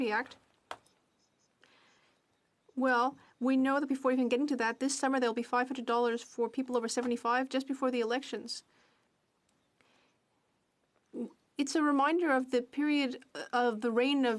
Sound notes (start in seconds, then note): 4.8 speaking French